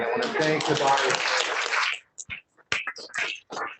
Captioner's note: applause